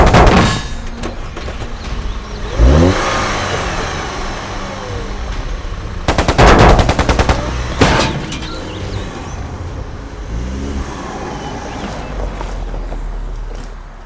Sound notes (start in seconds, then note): 0.0 gun pattering; 0.1 car clanking; 3.3 car engine roaring